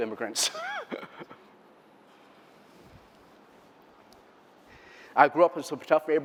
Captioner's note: laughter